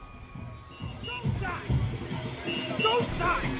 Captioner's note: voiceover